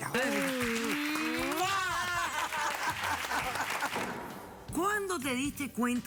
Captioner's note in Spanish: aplausos; risas